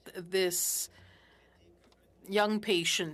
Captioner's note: speaking French